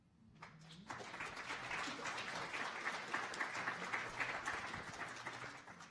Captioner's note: audience applauding